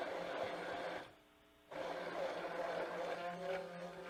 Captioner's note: hand blender whirring